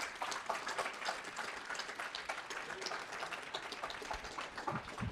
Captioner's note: audience applauding